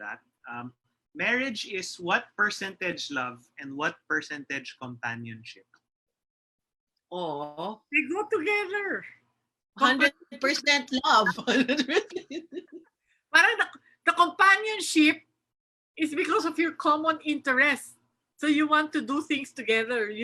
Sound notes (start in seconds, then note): 11.2 laughs